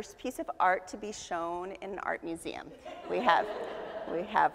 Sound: audience laughs

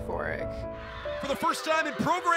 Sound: team cheering

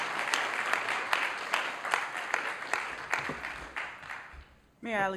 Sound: applause

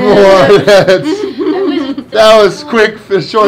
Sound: laughing

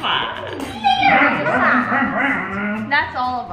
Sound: dog growling

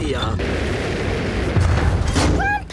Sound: thuds

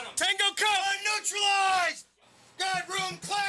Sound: voiceover

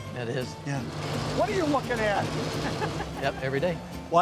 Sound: laughing

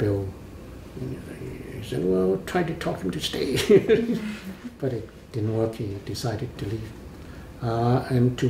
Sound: laughs

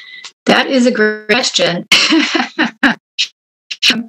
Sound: laughs

